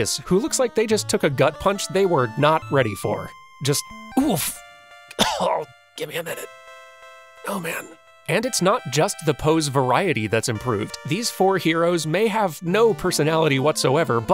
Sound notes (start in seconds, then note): 5.1 cough